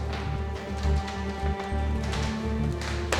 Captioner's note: eerie music; footsteps